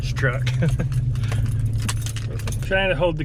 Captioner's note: chuckles